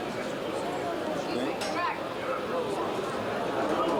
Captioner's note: crowd noise